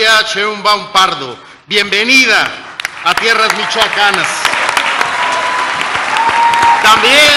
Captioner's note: applause